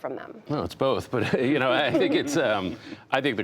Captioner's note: laughter